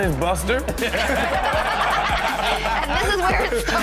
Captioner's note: everyone laughs